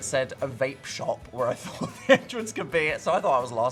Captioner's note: laughs